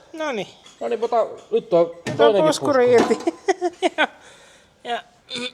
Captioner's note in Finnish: naurua